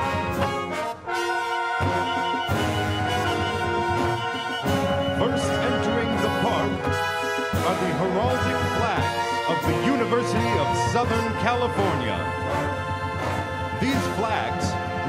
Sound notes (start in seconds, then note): none